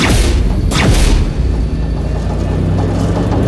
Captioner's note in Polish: Dźwięk aktywacji snopów ściągających